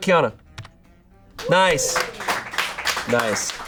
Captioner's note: audience applauding